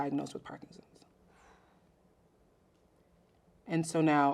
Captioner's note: exhales softly